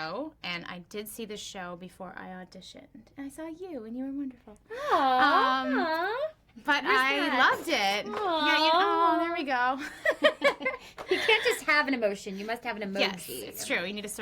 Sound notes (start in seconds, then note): 9.8 both laughing